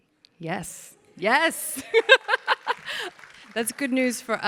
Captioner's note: laughs; audience applauds